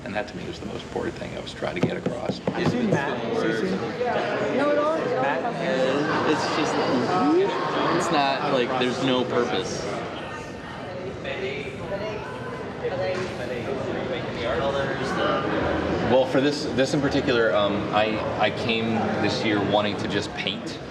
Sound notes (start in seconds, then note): 3.2 overlapping chatter; 10.4 chatting in background